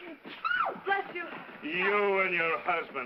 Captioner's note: sneezes